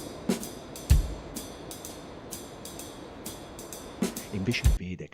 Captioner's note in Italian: Respiro affannoso